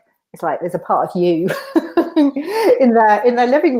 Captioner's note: laughs